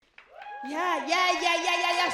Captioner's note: audience claps and cheers